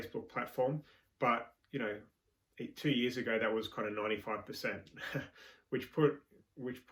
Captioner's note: chuckling